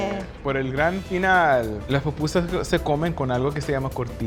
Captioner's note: speaking Spanish